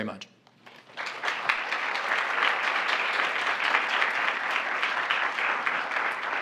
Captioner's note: applause